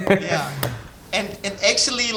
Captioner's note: laughing